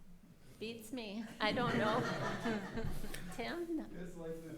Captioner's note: people laughing